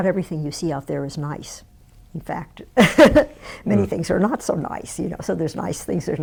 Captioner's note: laughs